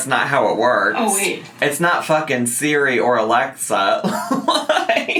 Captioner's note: laughing